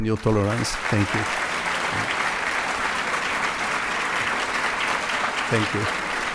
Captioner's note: audience applauds